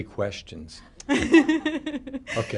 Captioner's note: laughter